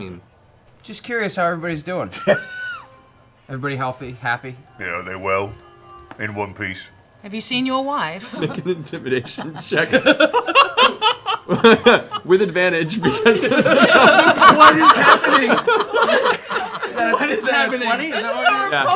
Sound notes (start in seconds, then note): 10.9 laughing; 14.5 laughter